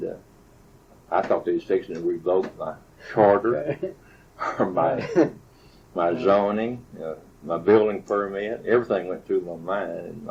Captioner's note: both laugh